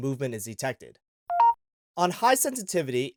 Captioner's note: beeping Noise